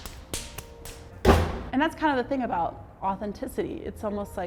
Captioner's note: hand slapping